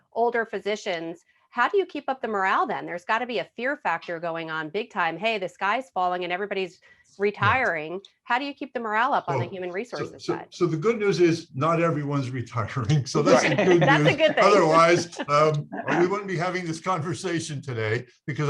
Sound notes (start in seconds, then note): 12.6 laughing